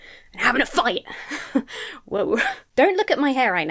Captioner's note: laughs breathlessly